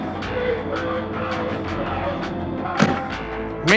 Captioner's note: man screams; second man screaming